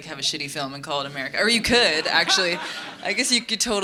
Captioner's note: audience laughing